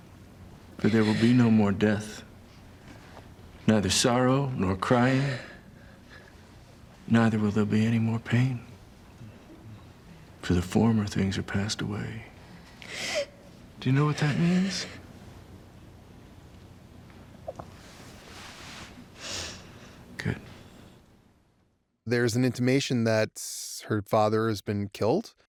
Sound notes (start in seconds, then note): 12.4 child sobs; 19.2 child sniffles